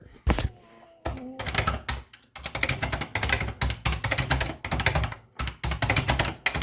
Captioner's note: keyboard clacking